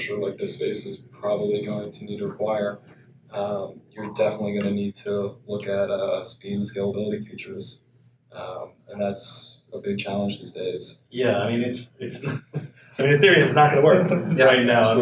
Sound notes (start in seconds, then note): 12.8 laughs